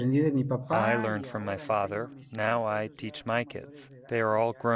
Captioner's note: through translator